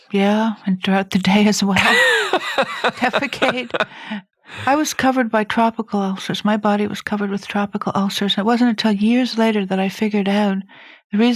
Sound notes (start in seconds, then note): 1.8 laughs; 1.8 chuckles